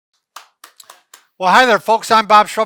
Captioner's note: clapping hands